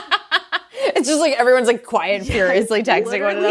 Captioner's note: laughing